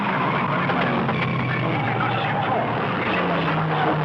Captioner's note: tires skidding